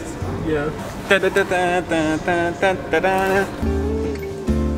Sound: yelling; gentle upbeat music

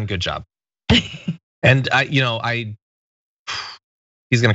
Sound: laugh

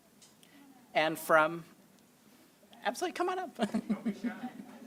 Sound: laughs

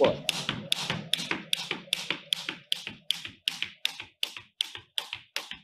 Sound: floor clicking and tapping

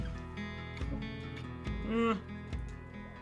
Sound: unpleased moan

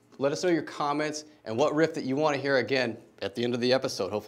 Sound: none

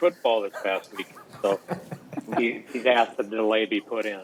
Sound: laughing

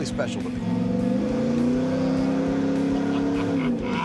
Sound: engine accelerating

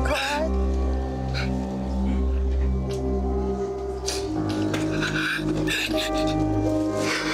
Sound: sad piano music; sobbing

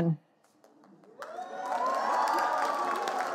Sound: audience cheering; audience booing

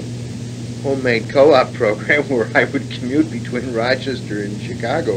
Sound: chuckles

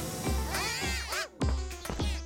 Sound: squeaking happily

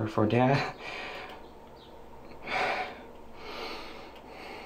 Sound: sighing

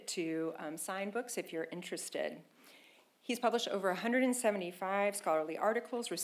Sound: none

